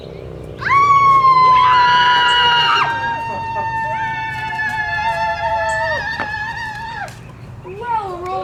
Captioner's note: screaming